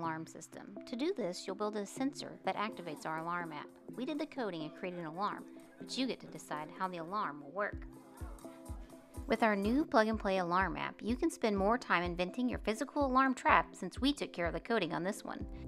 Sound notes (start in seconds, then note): none